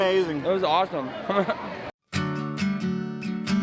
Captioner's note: laughs; gentle guitar music